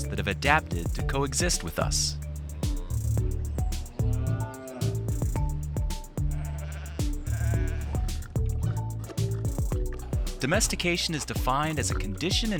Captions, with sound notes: that have adapted to coexist with us. (cow mooing) (sheep bleating) Domestication is defined as a condition